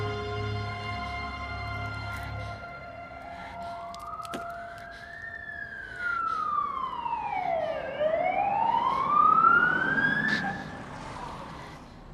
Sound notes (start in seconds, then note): 2.8 police sirens wailing